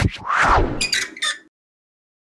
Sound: creaking

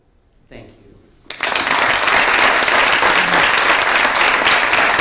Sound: audience applauding

